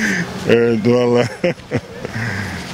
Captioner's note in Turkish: Gülme sesi